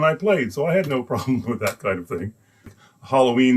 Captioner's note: laughs